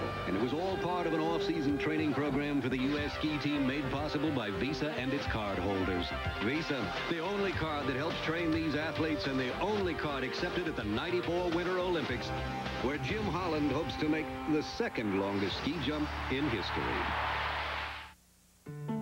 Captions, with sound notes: And it was all part of an off-season training program for the U.S. Ski Team ... made possible by Visa and its cardholders. Visa. The only card that helps train these athletes, and the only card accepted at the '94 Winter Olympics. Where Jim Holland hopes to make ... the second-longest ski jump in history. [crowd cheering]